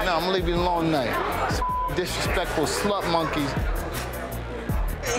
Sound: beep

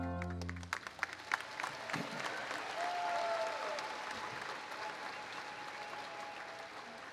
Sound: applause

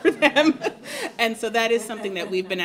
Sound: laughter

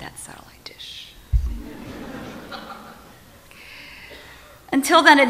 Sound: audience laughs

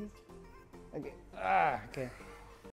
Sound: grunts

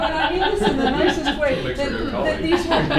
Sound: laughter

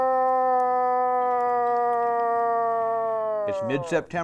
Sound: bellows

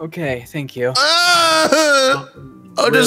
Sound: cry of despair

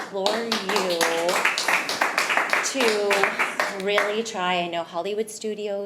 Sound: attendees clapping

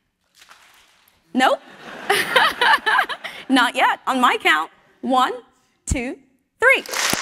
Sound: laugh; applause

